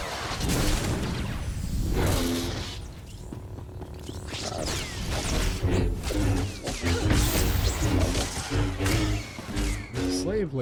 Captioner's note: gunshots